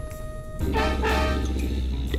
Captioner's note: blows softly; growls